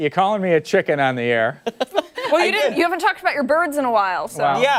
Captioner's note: laughter